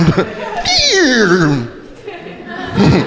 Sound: imitating record scratching; crowd laughing

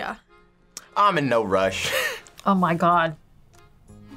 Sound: laughs

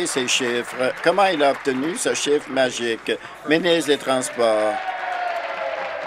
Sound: applause

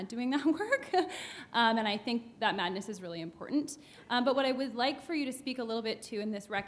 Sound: chuckle

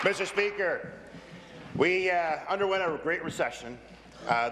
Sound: applause

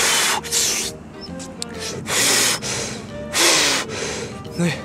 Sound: blowing; inhale

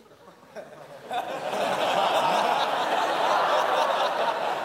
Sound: laughter

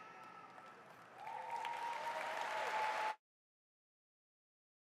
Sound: audience applauding

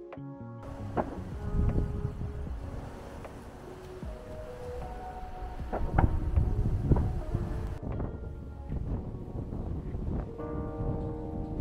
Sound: sound of wind

